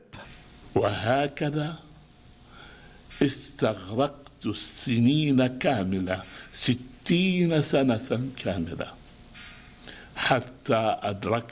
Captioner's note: video, reads in Arabic